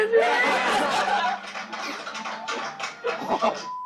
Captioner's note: laugh